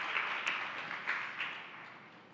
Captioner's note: applause